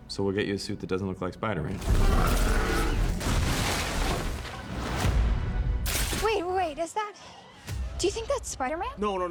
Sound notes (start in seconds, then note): 1.8 roars